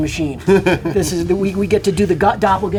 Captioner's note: laughs